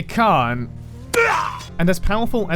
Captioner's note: WC3 Demon Hunter death noise